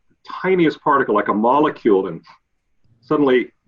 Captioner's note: sniffs